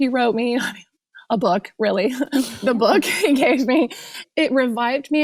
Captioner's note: laughs